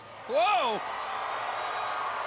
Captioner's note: crowd cheering